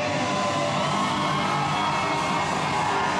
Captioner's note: cheering